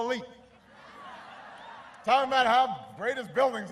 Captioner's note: laughter